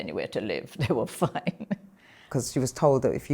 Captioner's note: laughs ironically